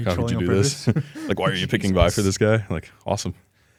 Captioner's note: laughs